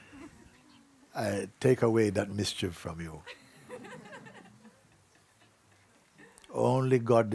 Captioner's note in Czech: smích; smích